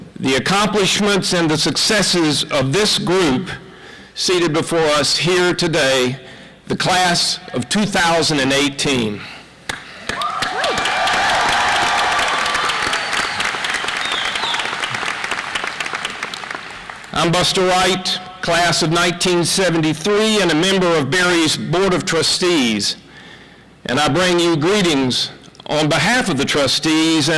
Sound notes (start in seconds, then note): 14.7 applause; 14.7 cheering